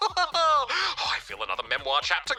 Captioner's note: laughs